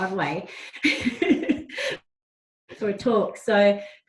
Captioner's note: laughs